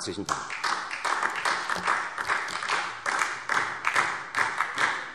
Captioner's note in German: Beifall SPD